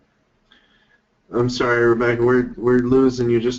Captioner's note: voiceover